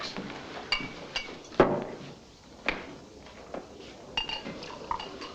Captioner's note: glasses clinking